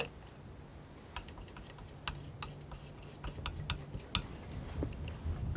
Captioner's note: scissors snipping